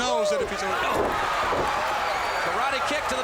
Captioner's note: crowd cheering